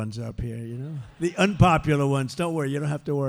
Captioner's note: laughter